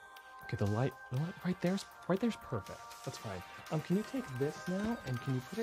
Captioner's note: speaks in english